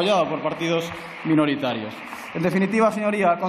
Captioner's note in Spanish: Aplausos